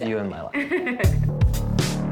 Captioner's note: laughs